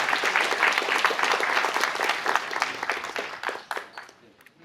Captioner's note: applause